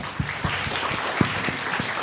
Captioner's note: applause